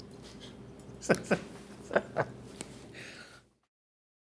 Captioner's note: laughs